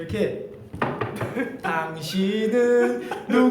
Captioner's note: knocks